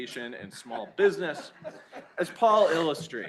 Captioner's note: laughter